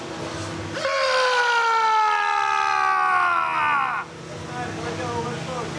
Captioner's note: screaming